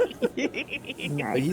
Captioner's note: laughing